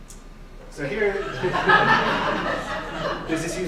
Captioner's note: laughing